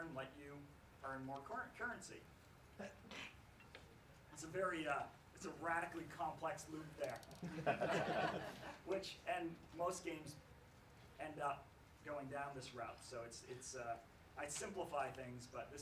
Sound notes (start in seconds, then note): 7.4 laughs